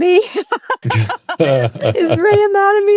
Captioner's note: both laughing